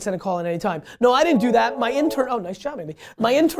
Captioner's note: phone rings